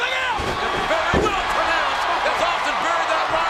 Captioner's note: audience cheers